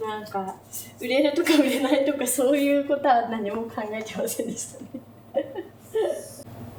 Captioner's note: laughs